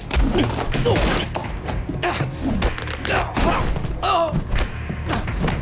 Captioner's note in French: Grognant, gémissant